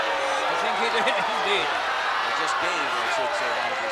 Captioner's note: crowd clamoring; laughs